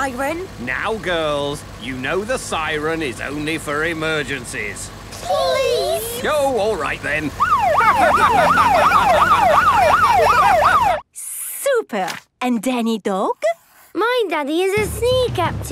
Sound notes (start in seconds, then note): 7.3 siren wailing; 7.6 laughing